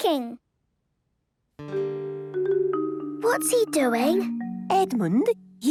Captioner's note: whispering